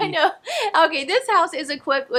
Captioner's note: laughs